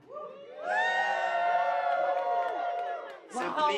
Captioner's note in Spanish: público ovacionando